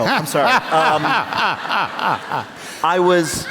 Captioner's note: laughter